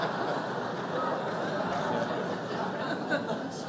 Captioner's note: laughter